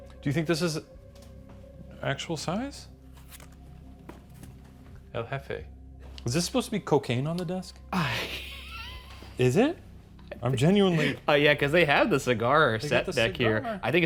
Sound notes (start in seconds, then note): 2.8 eerie music; 8.0 laughs